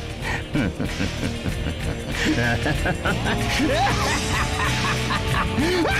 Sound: sigh

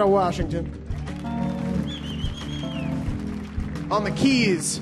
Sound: audience applauds

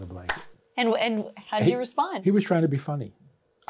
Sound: laughs

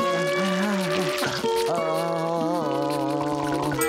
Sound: groaning

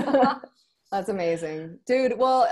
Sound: both laughing

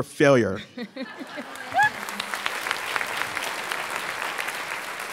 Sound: audience clapping

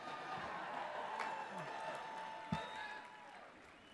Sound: applause

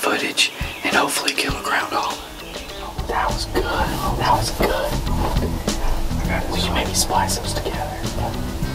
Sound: whispering

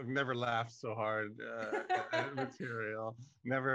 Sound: laughs

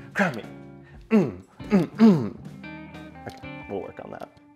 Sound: grunting

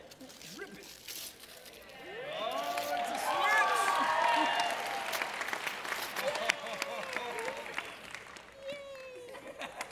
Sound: audience Cheers

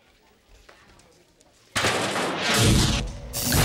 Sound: clanking

